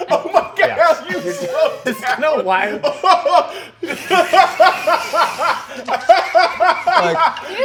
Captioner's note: dissolves into laughter